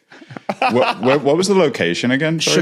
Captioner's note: laughs